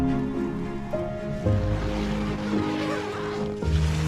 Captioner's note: morning squeaking; zipper